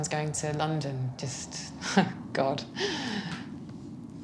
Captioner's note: inhaling sharply